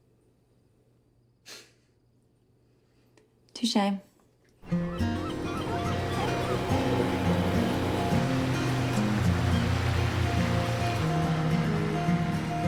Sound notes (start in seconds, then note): 4.6 gentle music; 4.6 birds squawking